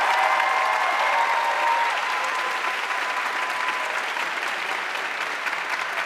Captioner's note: audience cheering and applauding